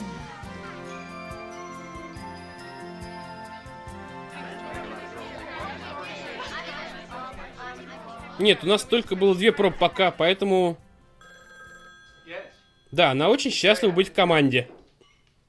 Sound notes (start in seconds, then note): 4.3 chatter; 11.2 telephone rings